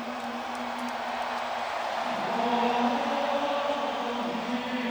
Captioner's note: choral singers vocalizing; crowd cheering